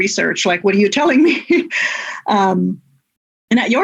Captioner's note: laughs